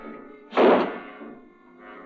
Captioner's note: banging